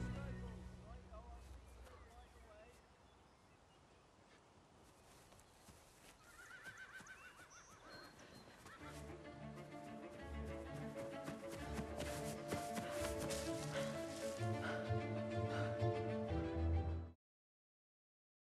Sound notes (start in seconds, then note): 0.2 indistinct chatter in distance; 6.2 horse neighing; 9.0 tense music plays; 13.6 panting